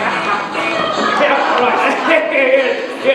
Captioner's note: laughs